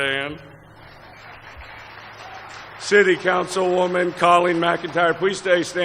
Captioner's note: applause